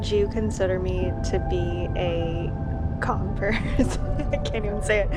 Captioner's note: Sindha laughs